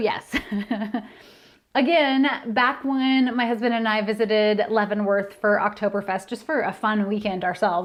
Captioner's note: laughter